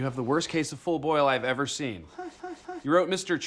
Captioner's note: incredulous Boyle sound